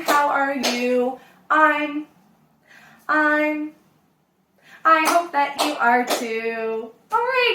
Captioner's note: clapping; clapping